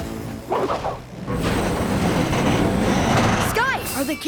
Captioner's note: creaking